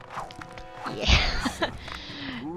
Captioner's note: laughs